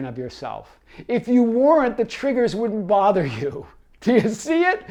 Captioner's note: laughing